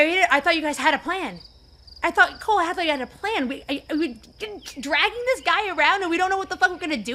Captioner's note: stammers